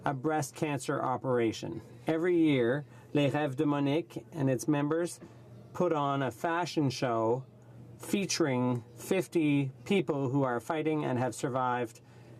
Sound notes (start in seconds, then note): 7.8 speaking French